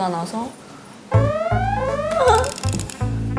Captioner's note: wee woo